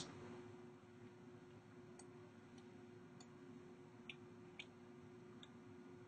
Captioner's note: clicking